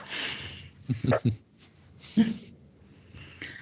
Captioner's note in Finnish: naurua